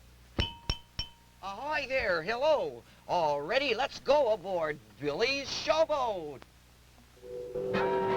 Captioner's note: bell